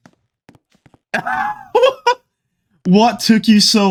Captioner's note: laughing